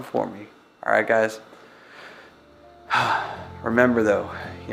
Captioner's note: sighs